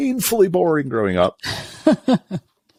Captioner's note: laughs